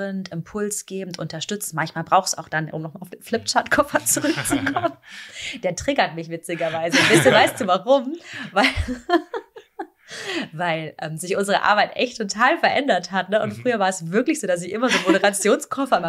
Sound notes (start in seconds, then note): 9.2 laughter